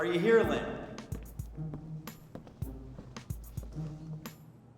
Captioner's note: footsteps tapping